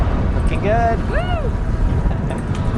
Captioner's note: bike chains clank; cheers; laughs